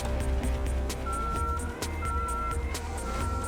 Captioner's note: beeping